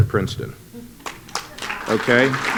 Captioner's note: applause